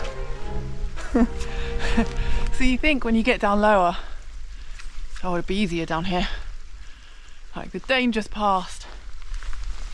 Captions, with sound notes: *chuckles* so you think when you get down lower.. oh well it'll be easier down here like, the danger's passed